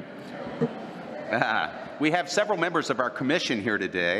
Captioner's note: laughter